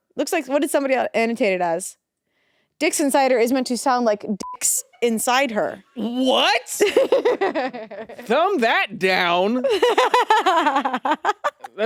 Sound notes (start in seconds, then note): 4.4 beep; 6.8 laughs; 9.6 laughs